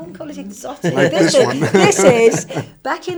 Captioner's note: laughing